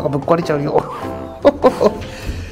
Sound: laughs

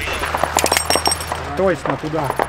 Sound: radio exchange

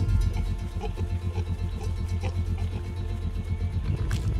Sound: pigs grunting

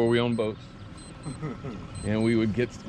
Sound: beeping

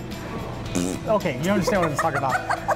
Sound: blows raspberry

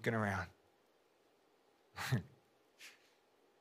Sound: chuckles

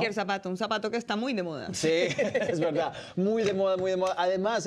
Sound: Risas

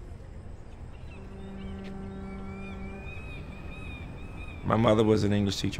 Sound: fog horn blaring and seagulls cawing

